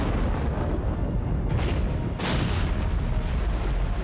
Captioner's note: explosions booming